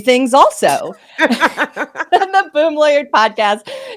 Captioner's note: both laughing